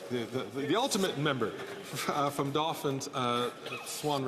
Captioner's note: laughter